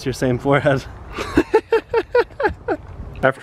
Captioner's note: laughs